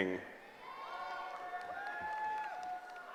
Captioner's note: cheering